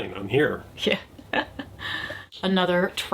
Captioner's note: laughs